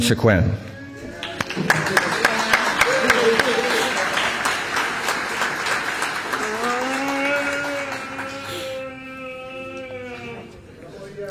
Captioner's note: applause